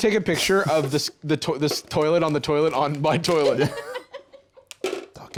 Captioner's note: laughs